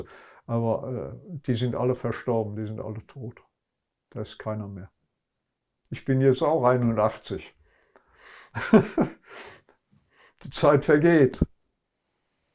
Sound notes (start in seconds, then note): 8.5 laughing